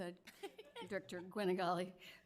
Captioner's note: laughing